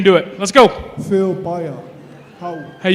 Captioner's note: non-english speech